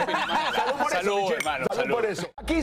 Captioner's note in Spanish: risas